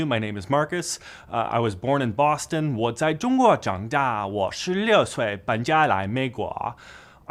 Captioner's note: speaking in foreign language